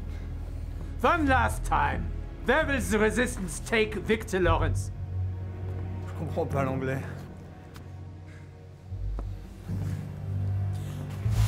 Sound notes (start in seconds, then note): 5.6 speaks in French; 8.2 panting